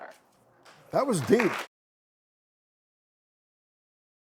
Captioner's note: clapping